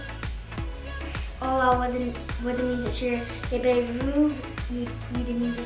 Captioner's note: speak foreign language